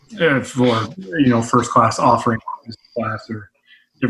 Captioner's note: audio muffles